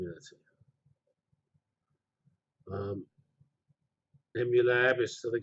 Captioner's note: pause